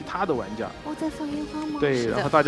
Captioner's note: surprised